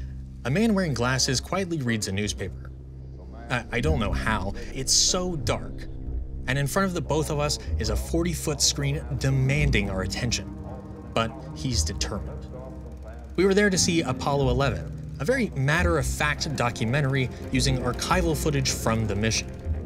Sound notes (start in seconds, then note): 8.8 reverberating movie audio; 16.6 dark folksy swell; 19.1 dark folksy swell